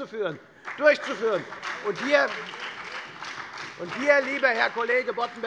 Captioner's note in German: Beifall bei der FDP und der SPD